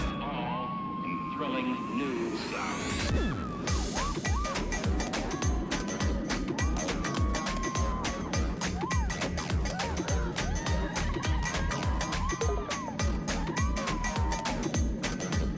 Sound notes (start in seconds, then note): 3.5 electronic music; 11.1 riders screaming